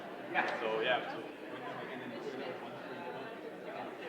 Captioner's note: indistinguishable chatter